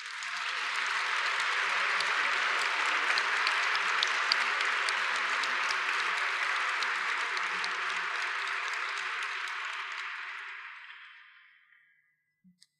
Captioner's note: applause